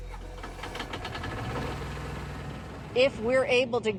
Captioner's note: motor revs